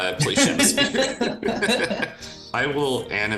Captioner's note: both laughing